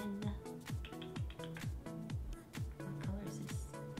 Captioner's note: tongue clcking